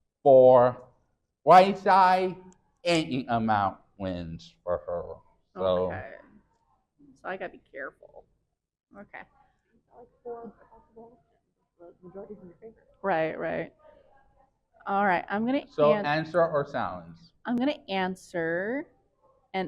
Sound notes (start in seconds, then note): 10.1 faintly speaking